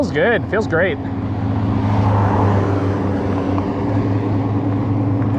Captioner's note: car engine revs